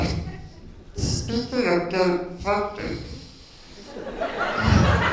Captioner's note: laughter